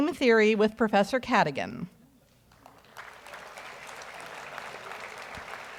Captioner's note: audience applauds